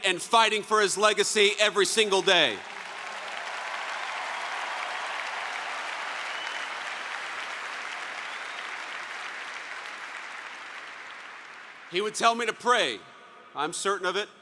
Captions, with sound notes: and fighting for his legacy every single day. (applause) He would tell me to pray, I'm certain of it.